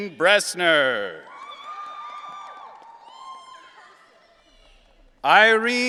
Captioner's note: audience cheering